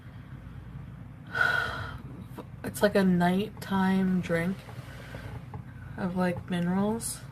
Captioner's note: exhales